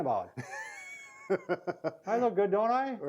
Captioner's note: laughs